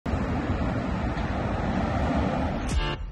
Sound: traffic noise; upbeat music

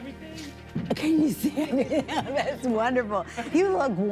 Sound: laughing

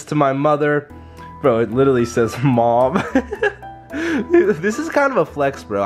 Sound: laughs

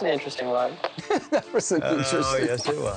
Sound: laughs

